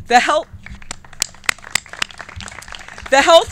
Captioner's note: clapping